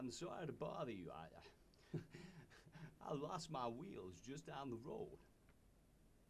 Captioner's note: scoffs